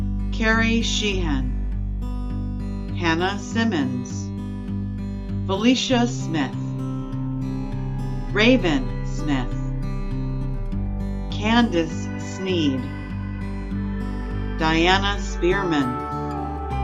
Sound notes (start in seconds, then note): none